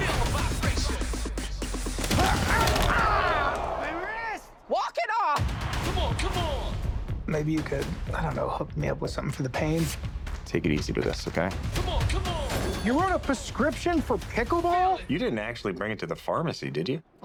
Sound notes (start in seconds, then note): 2.1 crowd groaning; 2.2 grunting, groaning